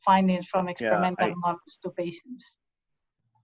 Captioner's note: voice muffling